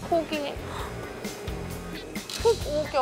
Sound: hesitates

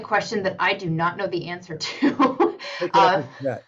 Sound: laughs

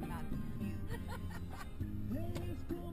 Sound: laughter

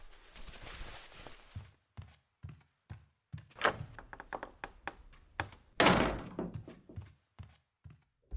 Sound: door opens

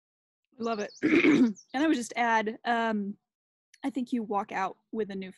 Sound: clears throat

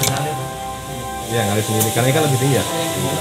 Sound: people sounds

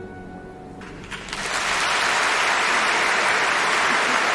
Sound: applause

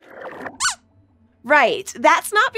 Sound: squeaks squeaks

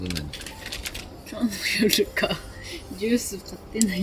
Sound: laughs

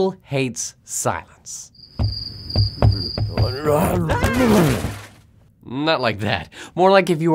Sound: crash; scream

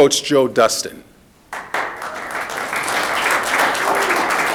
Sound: audience clapping

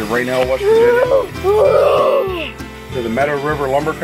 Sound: child imitating train horn honking

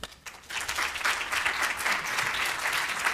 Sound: applause

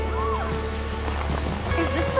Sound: screams

